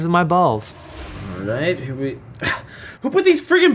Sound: scoffs

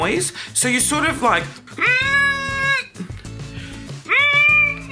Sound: high pitched grunt

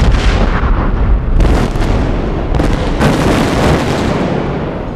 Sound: explosions

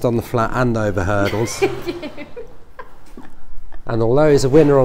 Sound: assistant giggles

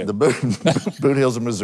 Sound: speakers laughing

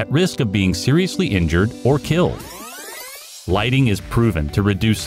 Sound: tape rewind sound effect

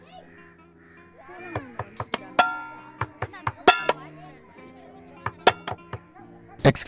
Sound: door knocking

